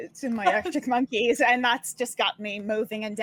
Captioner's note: laughing